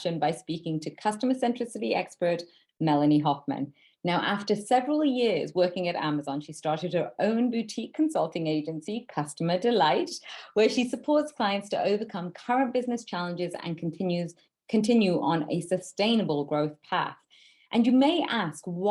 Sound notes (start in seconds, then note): none